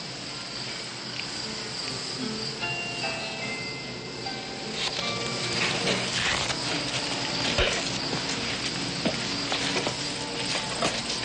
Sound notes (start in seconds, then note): none